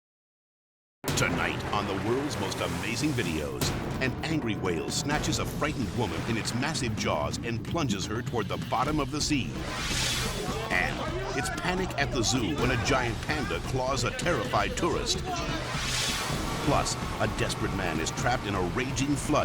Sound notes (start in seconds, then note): 9.6 air whooshes; 10.3 people yelling; 15.3 air whooshes